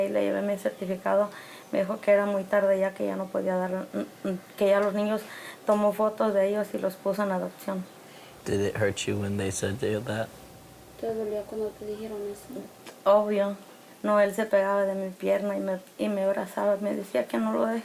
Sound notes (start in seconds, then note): 11.2 speaks in foreign language